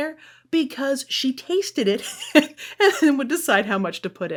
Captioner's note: chuckles